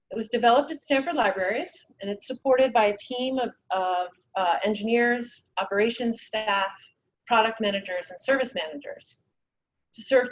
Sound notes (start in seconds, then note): none